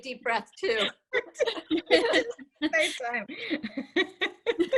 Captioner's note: laughing